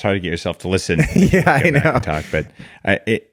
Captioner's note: laughs